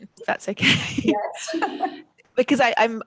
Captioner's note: laughs